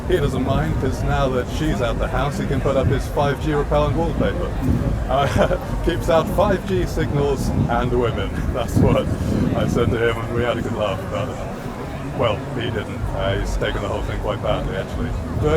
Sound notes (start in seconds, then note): 5.4 laughs